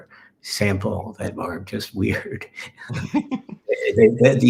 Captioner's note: laughing